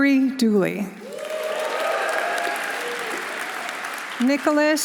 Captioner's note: audience applauding; audience cheering